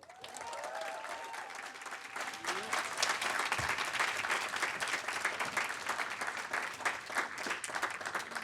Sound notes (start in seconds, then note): 0.0 cheers; 0.0 applause